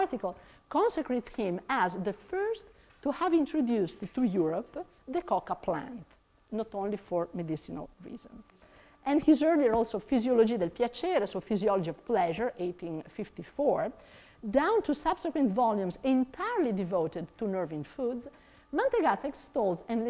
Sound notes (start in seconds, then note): 10.2 speaks in foreign language